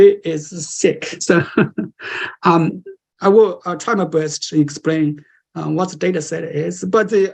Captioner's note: laughter